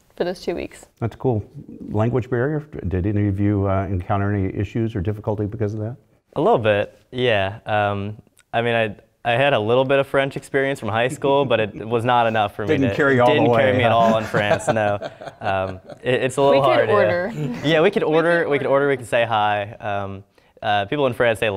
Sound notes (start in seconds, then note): 13.3 laugh; 14.7 laugh